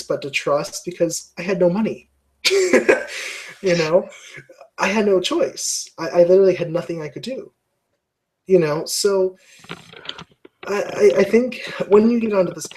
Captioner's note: laugh